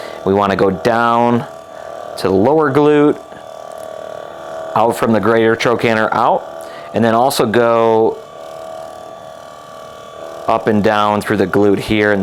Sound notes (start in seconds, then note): 3.6 massage gun buzzes